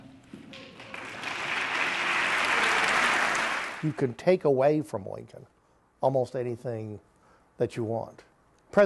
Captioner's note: applause